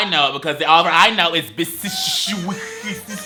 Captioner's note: hisses